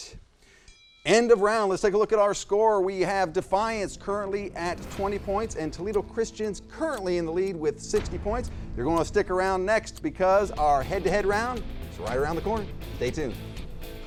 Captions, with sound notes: (bell chimes) End of round. Let's take a look at our score. We have Defiance currently at 20 points and Toledo Christian's currently in the lead with 60 points. You're gonna want to stick around next because our head to head round is right around the corner. Stay tuned.